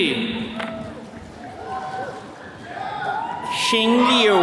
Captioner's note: attendees cheering